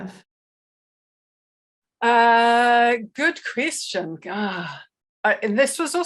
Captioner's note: sighs